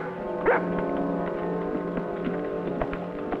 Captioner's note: dog barking